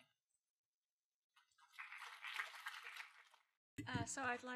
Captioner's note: applause